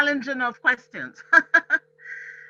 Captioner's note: laughs